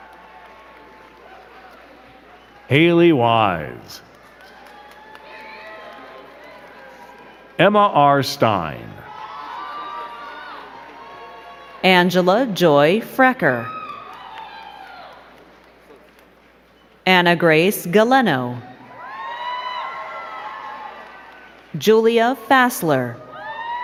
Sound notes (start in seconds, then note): 0.0 crowd clapping; 8.4 crowd cheering and clapping; 13.5 crowd clapping; 18.6 crowd cheering and clapping